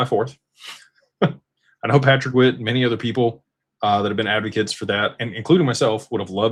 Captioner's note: laughter